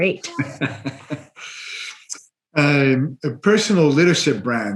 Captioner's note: laughs